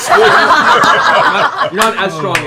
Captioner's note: laughter